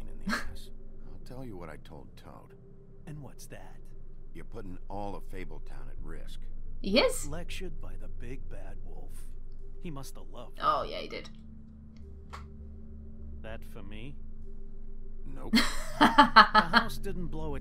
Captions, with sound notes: He is! Awww, yeah he did. [Laughs]